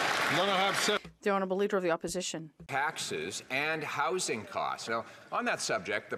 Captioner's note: some Applause